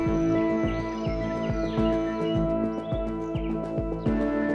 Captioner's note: birds chirping